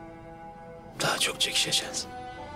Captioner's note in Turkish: none